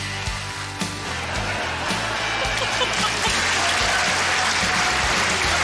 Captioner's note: cheering, applause, laughter